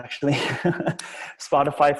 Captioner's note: laughs